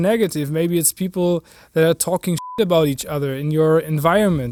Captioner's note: beep